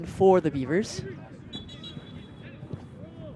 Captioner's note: whistle blows